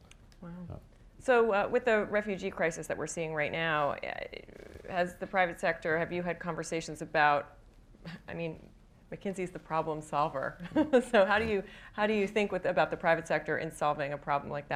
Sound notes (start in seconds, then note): 11.3 laughs